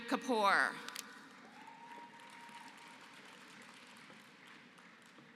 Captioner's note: applause